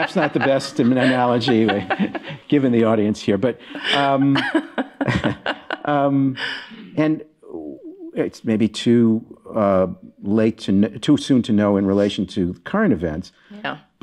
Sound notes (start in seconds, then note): 3.4 laughing